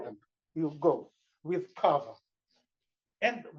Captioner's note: non-english